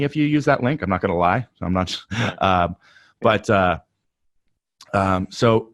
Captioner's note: laughs softly